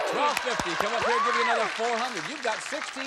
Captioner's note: applause